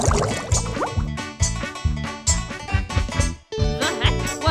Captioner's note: bubbling sounds; rhythmic hammering